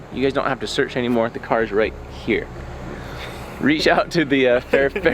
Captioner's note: chuckling